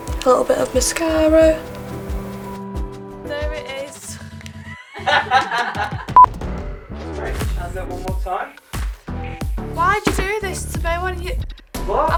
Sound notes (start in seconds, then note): 4.7 all laugh